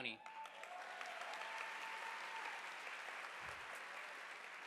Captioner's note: audience applauding